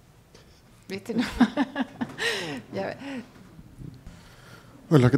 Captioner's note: laughs